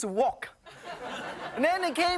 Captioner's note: audience laughing